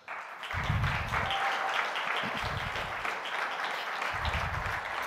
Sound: audience applauding

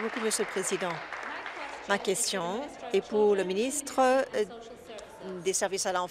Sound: applause

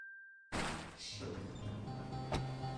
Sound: elevator opens

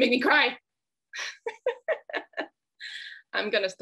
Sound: laughs

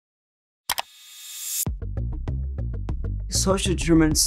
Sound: search button clicks

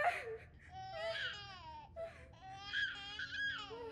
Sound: baby cries

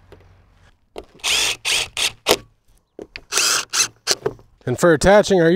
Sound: drill whirring

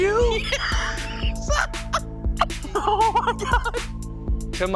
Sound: laughs

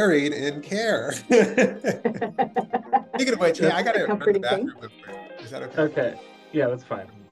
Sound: laughs

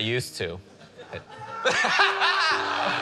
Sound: laughter

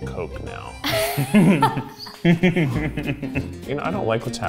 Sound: laugh

